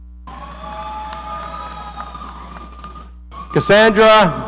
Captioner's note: audience cheering